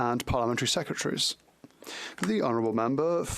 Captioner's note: speaking French